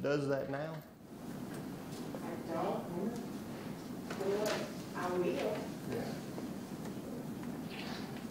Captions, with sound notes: that does that now? - [Voiceover] I don't know, you know what, I will.